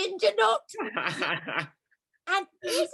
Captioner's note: laughs